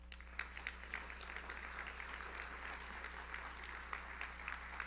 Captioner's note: audience applauds